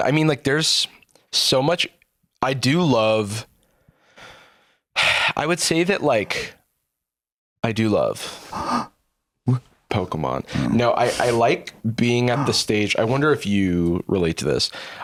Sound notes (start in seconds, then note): 8.3 gasps